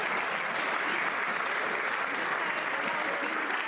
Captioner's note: some Applause